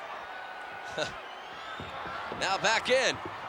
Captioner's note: chuckles